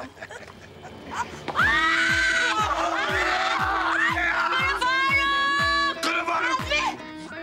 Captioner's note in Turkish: Çığlık atıyorlar